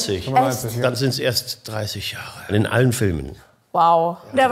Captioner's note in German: none